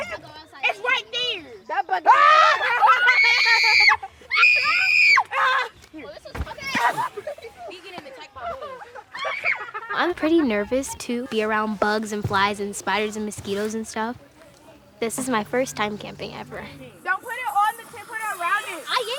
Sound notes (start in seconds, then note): 2.0 screams; 4.3 loud scream